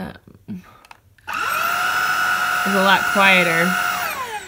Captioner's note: vacuum noises